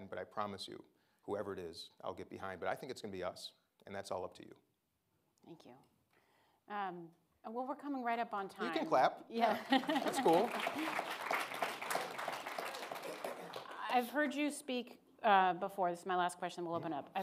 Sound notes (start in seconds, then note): 9.6 laughs; 9.7 audience applauding